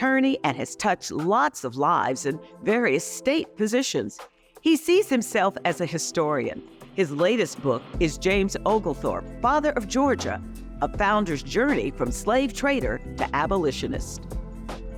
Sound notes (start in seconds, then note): none